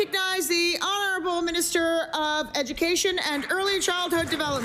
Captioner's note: applause